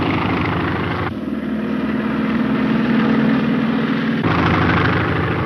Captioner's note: engine roaring